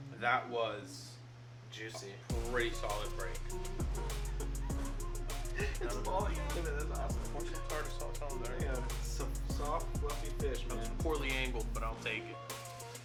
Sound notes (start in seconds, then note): 3.4 laughing